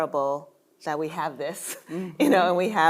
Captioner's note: chuckling